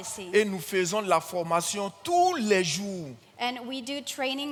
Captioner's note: continues in French